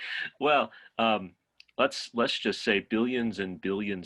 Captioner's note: laughs